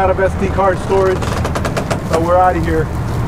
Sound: boat creaks

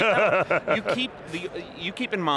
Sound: laughing

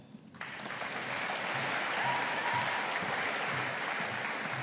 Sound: audience applauding

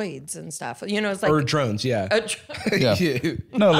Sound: laughs

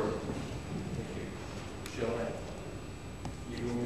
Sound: non-english speech

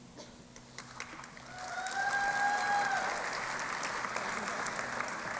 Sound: applause

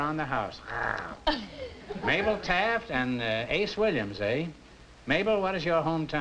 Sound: growls

